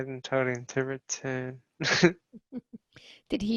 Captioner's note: he chuckles